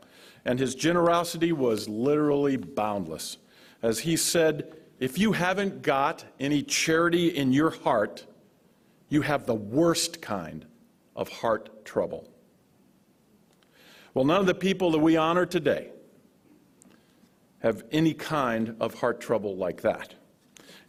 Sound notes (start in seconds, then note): none